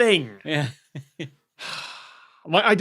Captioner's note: sighs